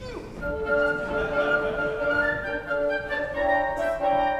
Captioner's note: laughter